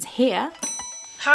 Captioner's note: bell dings